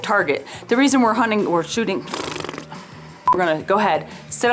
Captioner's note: blows lips